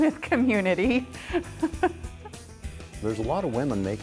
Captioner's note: chuckles